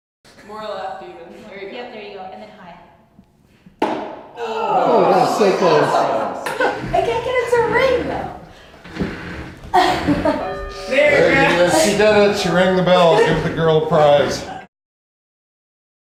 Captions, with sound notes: More left even. There you go. And then high. Oh, so close! I can't get it to ring, though! (bell rings) She did it, she rang the bell. Give the girl a prize.